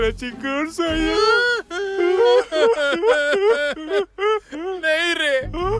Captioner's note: crying